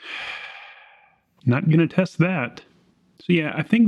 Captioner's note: sigh